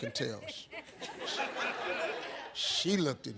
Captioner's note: audience laughs